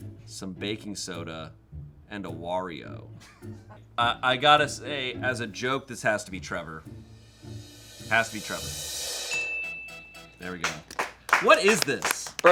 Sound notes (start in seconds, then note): 9.1 upbeat music; 9.2 bell dings